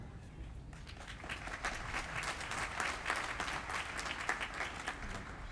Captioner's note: applause